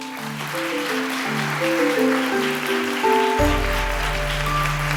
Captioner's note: applause